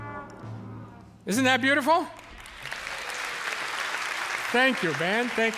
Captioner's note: dissonant instrumental descends to lowest notes; cheers and applause